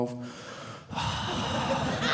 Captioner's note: audience laughing